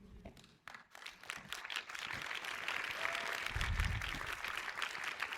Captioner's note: audience applauds